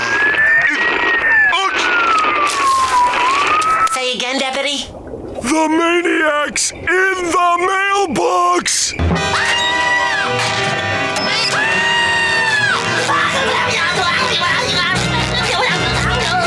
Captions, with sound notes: [static] ...looks... Say again, deputy? The maniac's in the mailbox! [screaming] [screaming] [jabbering]